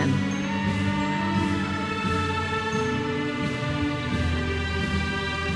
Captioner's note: audience member cheers